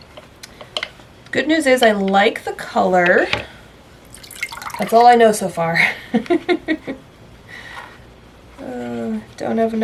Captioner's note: laughs